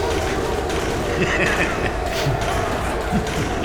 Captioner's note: Alfie laughs